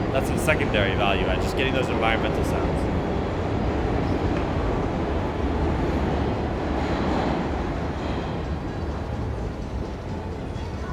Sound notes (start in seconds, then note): 5.7 train rumbling